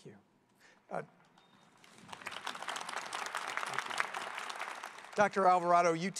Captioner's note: applause